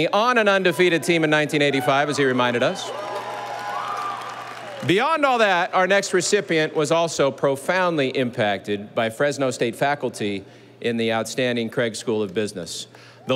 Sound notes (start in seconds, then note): 3.5 audience applauding